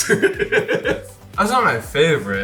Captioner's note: giggling